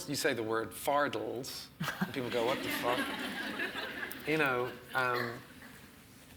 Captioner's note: audience laughs